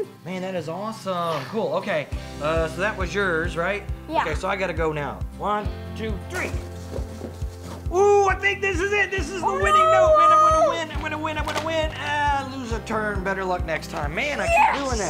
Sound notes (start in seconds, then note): 6.4 tearing paper